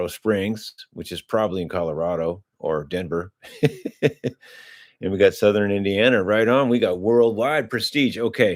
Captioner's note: laughter